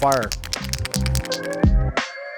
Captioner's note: can rattling